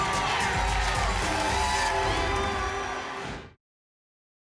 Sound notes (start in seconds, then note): 0.0 applause and cheering cont; 1.9 whoosh